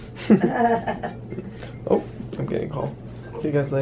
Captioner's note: laughs